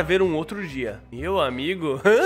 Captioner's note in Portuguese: risos